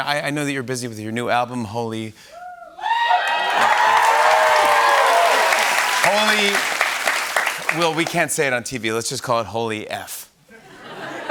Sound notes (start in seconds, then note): 2.8 cheers and applause; 10.5 laughter